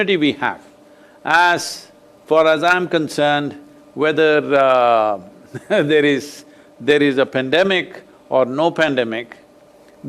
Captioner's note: laughs